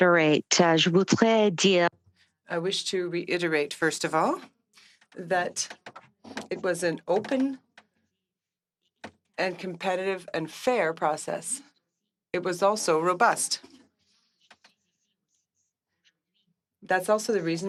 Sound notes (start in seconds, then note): 7.9 speaking French